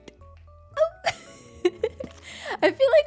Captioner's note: laughs